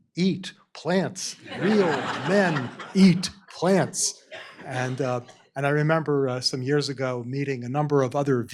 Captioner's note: laughter